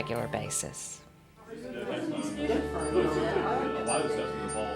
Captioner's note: chattering